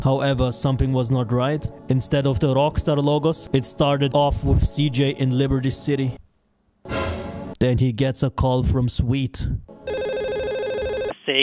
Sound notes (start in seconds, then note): 6.9 spook.wav; 9.7 ring ring